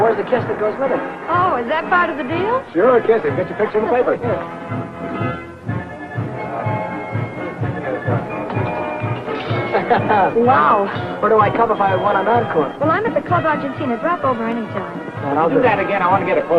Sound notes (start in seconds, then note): 9.6 Billy chuckling